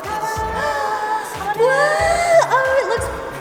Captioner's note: gasps